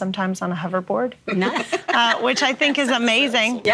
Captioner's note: everyone laughing